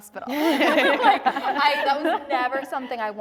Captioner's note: laughter